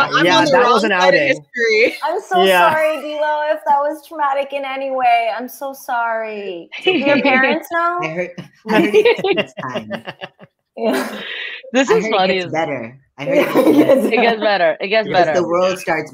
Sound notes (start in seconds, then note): 8.6 laughter